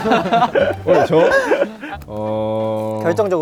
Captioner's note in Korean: 참을 수 없는 비웃음